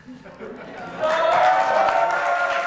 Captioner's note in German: Applaus